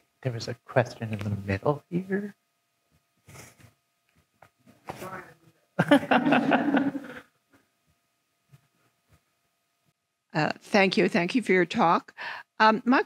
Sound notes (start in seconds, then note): 5.8 attendees laughing